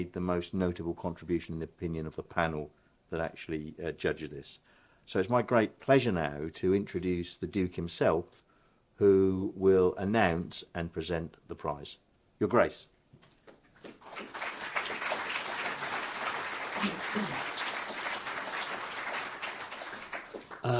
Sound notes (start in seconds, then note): 13.8 audience applauding